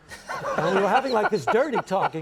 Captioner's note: Conan and audience laughs